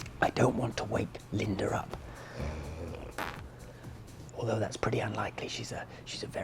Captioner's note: snores and farts